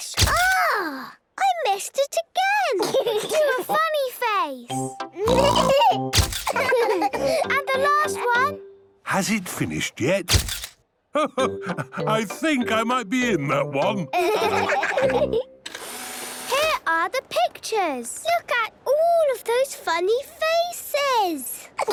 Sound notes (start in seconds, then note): 0.3 camera clicks; 5.3 giggling; 6.4 all laughing; 10.3 camera clicks; 15.7 whirring